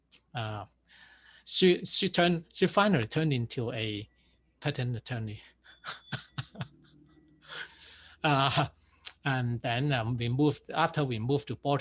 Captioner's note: laughs